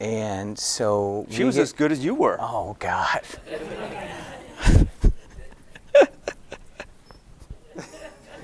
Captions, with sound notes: - She was as good as you were. - Oh, God. (laughing)